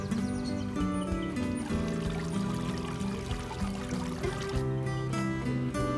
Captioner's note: trickling water